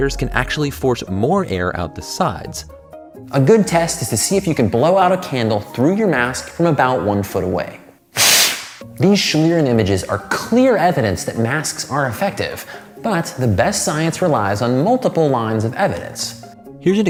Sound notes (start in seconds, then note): 8.1 blows